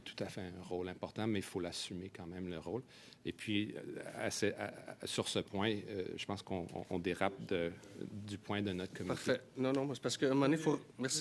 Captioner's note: speaking French